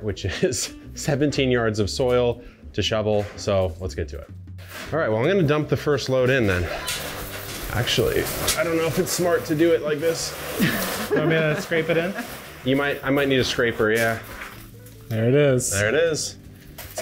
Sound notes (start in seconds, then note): 10.6 all chuckling